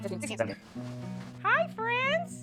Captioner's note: belly noises